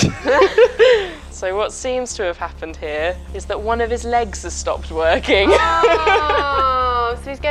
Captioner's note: laughs; laughs